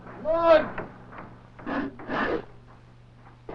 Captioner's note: sawing noises